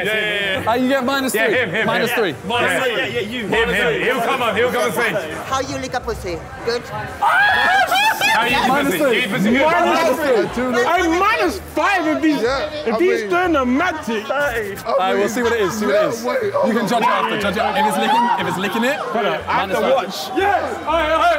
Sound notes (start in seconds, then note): 7.2 shrieking